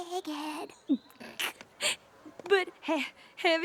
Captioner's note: chuckles